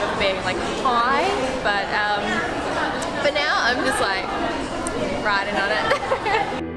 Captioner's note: laughs